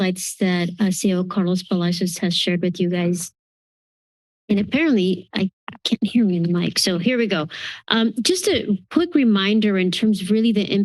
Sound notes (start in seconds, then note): 3.4 silence